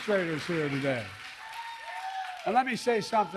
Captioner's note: applause